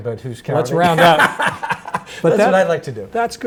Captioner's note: laughs